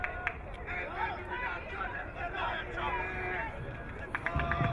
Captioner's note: crowd cheering